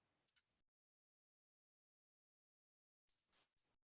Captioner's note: mouse clicking